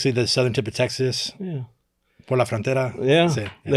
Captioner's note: speaking Spanish